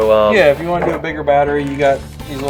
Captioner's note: voiceover